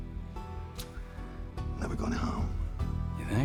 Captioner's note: scottish accent